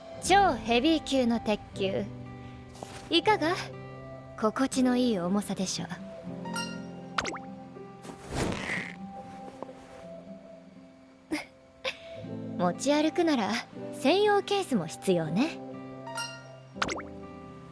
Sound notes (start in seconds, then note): 11.3 laughs